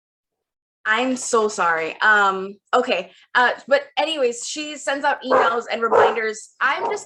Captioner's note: dog barks